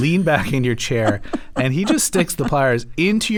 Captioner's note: laughter